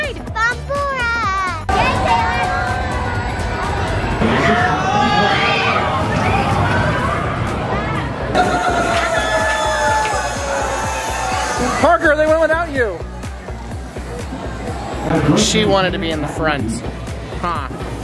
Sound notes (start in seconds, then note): 1.7 rollercoaster noises